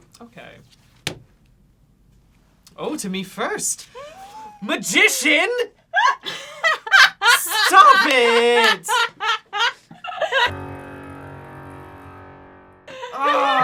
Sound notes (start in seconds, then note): 4.7 gasps; 5.9 laughs; 10.8 low booming